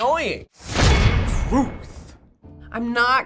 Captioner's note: clang!; voice-over